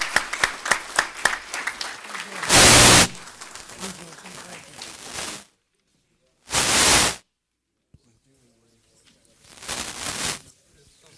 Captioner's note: applause